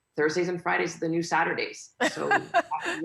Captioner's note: laughing